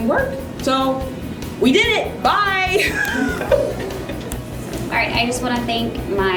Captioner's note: laughter